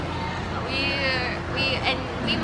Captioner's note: stutters